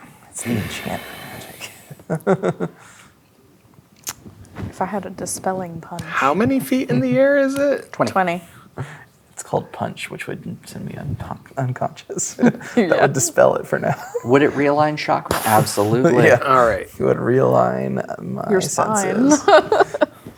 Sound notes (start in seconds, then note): 2.1 laughing; 19.0 laughs